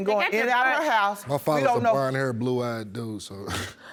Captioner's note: scoffs